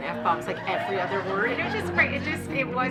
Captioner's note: audience laughing